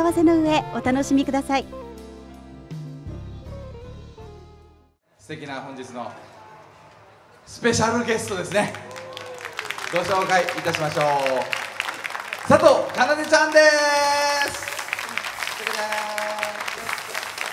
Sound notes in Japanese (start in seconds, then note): 13.5 拍手